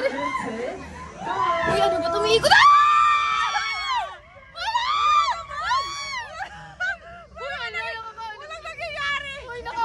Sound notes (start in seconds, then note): 1.2 screams